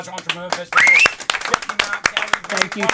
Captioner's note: clapping